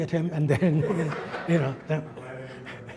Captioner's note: audience laughs